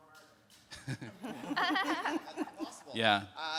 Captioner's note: speakers laughing